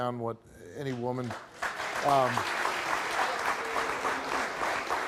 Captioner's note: audience applauds